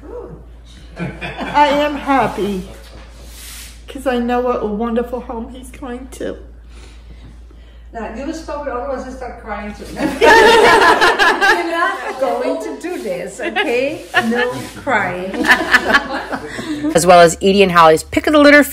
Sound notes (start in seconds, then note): 10.0 laughter